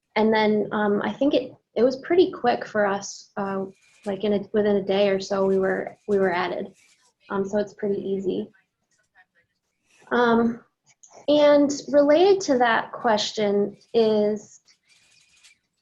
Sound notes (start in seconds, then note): none